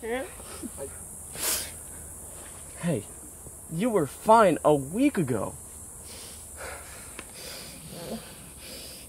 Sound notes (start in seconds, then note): 1.3 sniffling